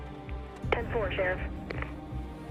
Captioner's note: radio